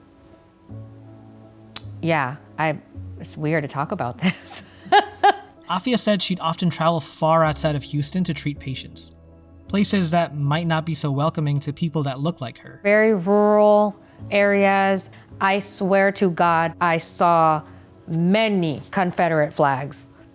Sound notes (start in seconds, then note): 4.2 laughs